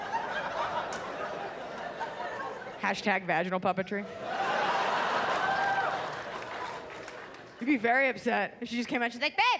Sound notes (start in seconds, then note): 4.1 audience laughs